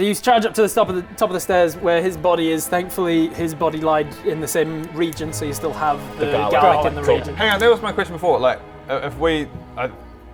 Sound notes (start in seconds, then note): none